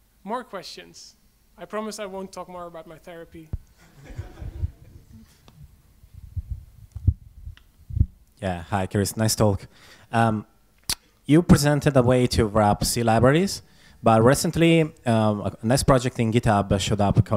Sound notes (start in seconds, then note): 3.8 audience laughs; 8.7 voiceover